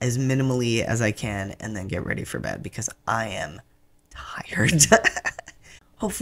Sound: laugh

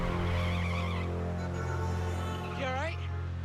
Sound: horn honks

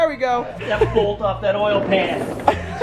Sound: laughs

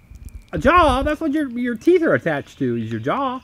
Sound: voiceover

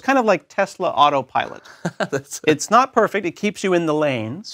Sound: laugh

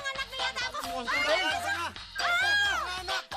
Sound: shouts

